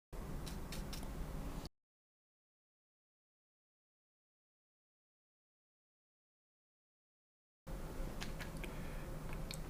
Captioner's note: silence